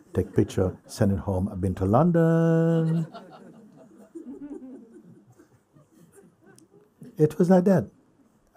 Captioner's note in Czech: smích